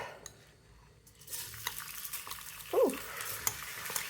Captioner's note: sizzling